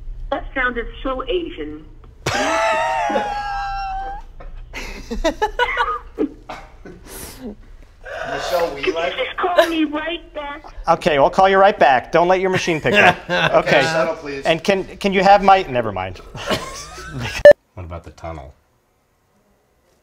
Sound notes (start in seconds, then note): 2.3 long exhaled laugh; 5.0 laughing; 12.6 laughing; 16.3 laughter